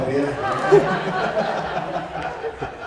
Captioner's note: laughter